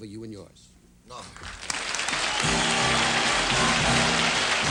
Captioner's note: applause